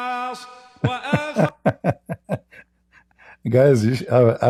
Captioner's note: Ketawa